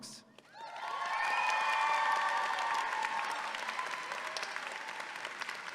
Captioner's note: audience applauding and cheering